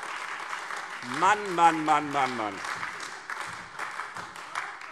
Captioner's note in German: Beifall Freie Demokraten, AfD und vereinzelt SPD